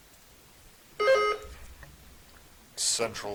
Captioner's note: buzzer chiming